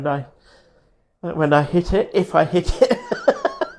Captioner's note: laughs